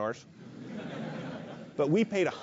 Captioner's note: laugh